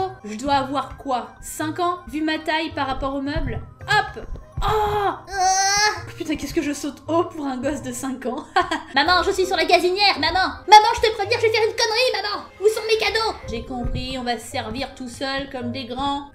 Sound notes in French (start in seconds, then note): 4.6 avec un cri de bébé; 8.4 rires